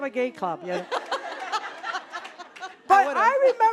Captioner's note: audience laughing